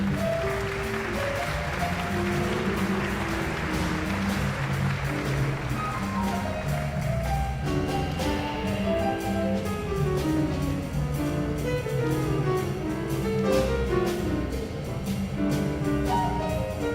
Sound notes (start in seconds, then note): 0.0 guests applauding; 6.7 exhilarating jazz music continues